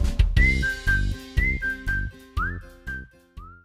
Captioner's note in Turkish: ıslık çalar